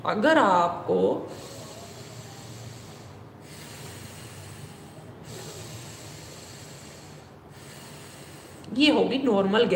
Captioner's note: breathing